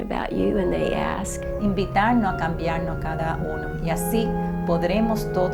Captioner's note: in Spanish